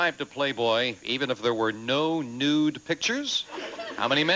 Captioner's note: audience laughing